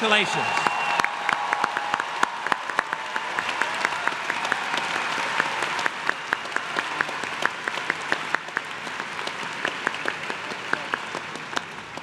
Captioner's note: applause